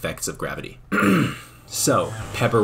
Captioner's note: ahem